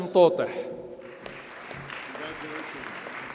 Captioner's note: audience applauds